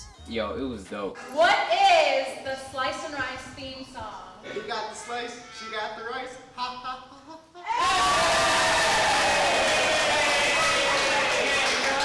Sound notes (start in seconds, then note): 7.6 wild applause